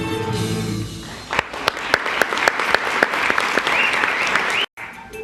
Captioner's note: applause; song ends